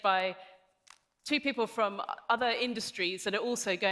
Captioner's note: none